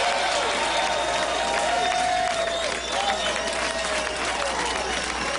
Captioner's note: applause